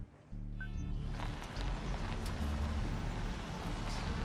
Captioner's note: horns honking